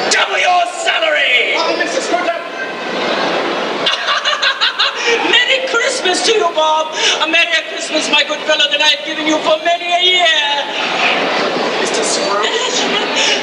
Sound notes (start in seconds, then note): 4.3 laughing